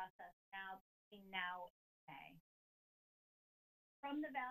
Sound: audio cuts

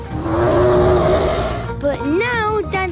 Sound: loud roar

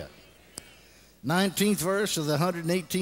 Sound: congregation responds

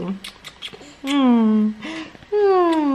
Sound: loud smooching

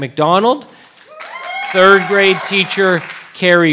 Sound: audience cheering

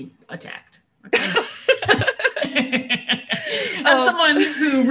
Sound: laughter

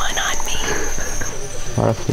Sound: laughs quietly

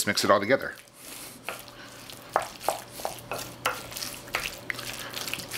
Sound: stirring

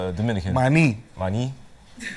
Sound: speaking spanish

